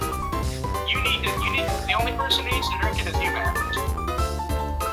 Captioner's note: phone alarm